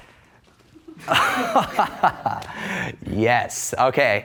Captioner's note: laughs